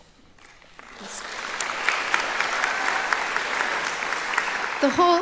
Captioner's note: applauding